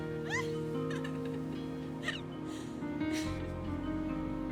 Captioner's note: Abby laughing; gentle music